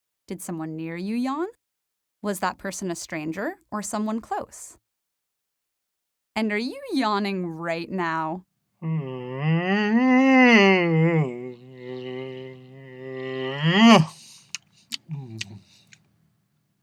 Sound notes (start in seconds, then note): 8.8 yawn; 14.0 lip smacking